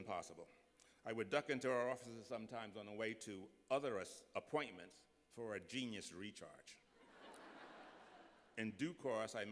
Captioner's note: laughter